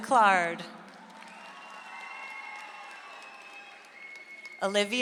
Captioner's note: audience applauds